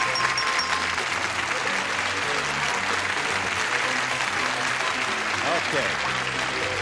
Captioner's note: applause